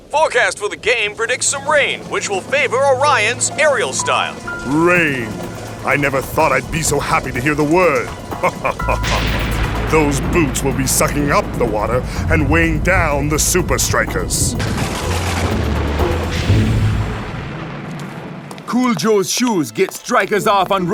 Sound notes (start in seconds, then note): 8.0 laughing; 8.4 lightning striking